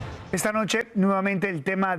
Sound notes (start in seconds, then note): 0.0 HABLA EN INGLéS